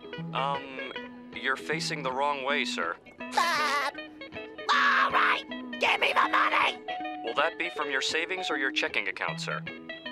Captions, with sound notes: Um, you're facing the wrong way, sir. [laughing] Alright, give me the money! Will that be from your savings or your checking account, sir?